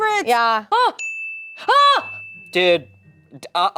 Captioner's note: yelling